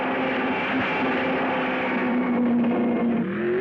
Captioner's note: car booming; car revving